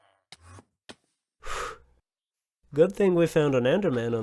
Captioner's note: phew